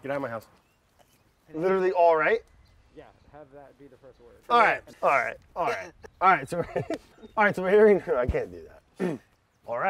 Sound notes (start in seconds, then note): 5.5 laughing